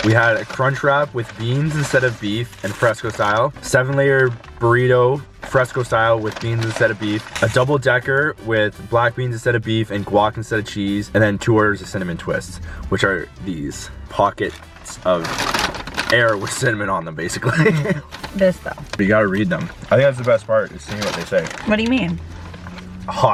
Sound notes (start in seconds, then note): 17.4 laughs